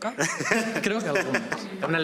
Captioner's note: laughs